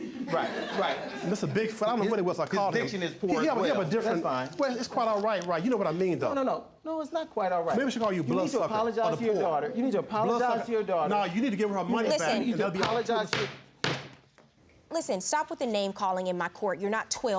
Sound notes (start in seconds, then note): 12.7 gavel strikes